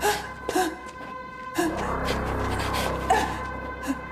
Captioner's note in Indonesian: tertawa